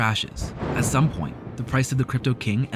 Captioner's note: thunder